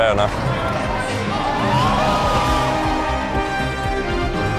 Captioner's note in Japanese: 歓声